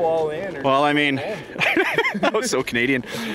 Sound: laughter

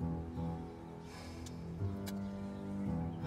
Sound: annoyed breathing

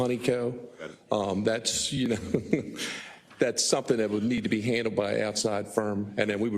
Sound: laugh

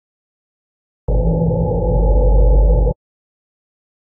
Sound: cave ambience

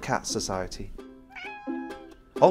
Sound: purr, miaow

